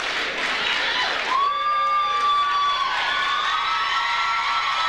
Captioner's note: audience cheers